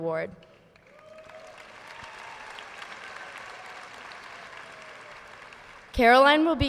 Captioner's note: audience applauding